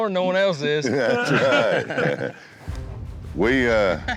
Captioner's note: laughter